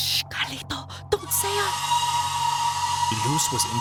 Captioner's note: creature howls